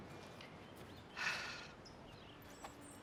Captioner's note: sighs